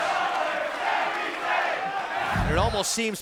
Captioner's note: fans chanting